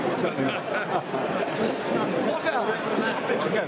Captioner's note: people laughing